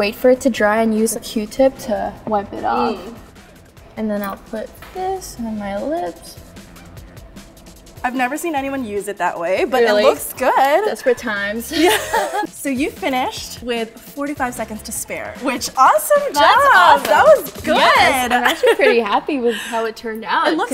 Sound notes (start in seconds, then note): 11.7 laughs